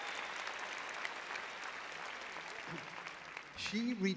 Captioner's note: applause